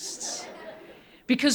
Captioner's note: audience laughing